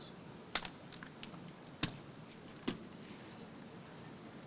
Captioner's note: rifles tapping